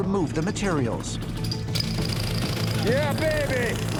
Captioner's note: jackhammer whirring